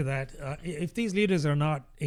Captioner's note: uh